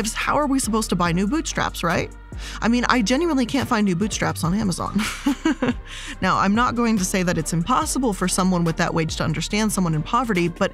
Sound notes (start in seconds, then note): 5.0 laughs